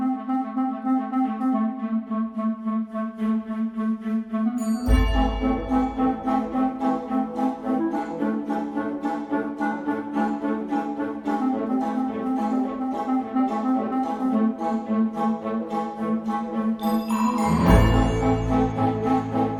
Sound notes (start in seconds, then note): 4.8 music grows more courageous; 13.9 Krel: high larynx, nasal, touch of growl